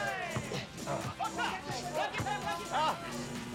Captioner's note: speaking Japanese